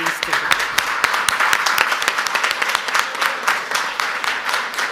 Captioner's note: audience applauds